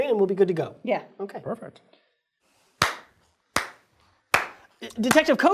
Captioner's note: clapping